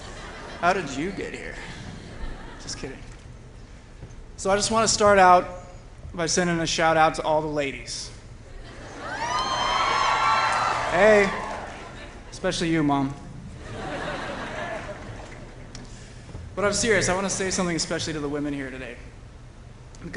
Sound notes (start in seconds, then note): 8.8 cheering; 13.6 laughter